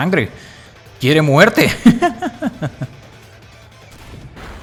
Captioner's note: laughs in Spanish